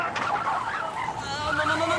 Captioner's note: wheels squealing